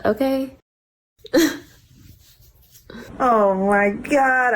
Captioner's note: laughs